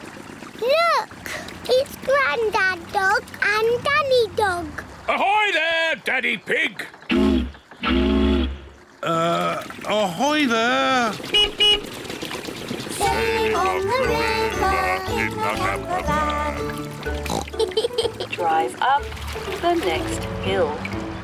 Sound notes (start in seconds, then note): 7.8 toots horn; 11.2 beeps horn; 17.0 oinks and giggles